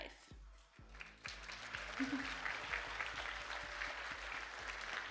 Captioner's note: audience applauding